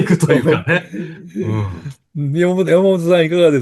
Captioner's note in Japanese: 笑い